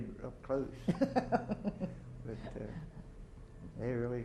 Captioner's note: chuckles